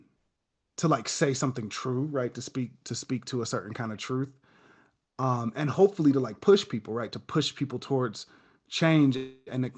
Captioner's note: none